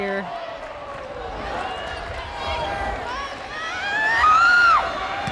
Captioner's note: players yelling